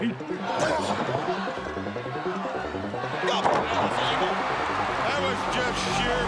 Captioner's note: applause